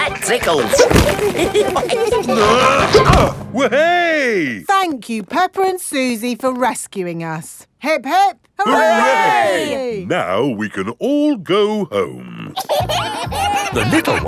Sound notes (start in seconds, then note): 0.4 all giggling; 2.3 grunting; 12.5 kids giggling